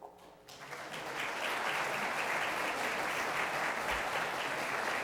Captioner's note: applause